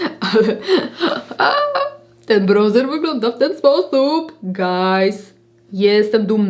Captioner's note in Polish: śmiech